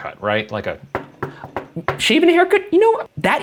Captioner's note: knocks a table